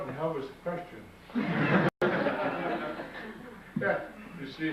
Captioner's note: audience laughs